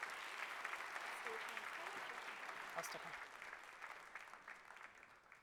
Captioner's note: applause